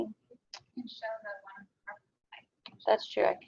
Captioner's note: audio drops